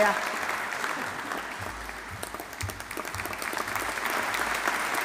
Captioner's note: audience applauding